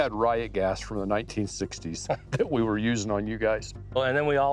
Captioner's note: laughs